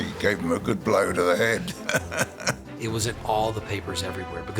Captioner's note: chuckles